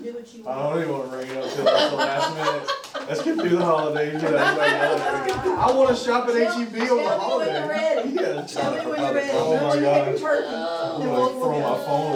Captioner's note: laughter